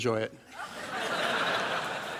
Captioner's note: laughter